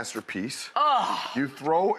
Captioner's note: groans in delight